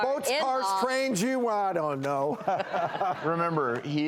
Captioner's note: laughs